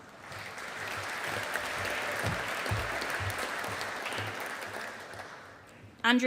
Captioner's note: audience applauding